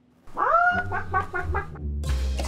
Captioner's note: clucking like a chicken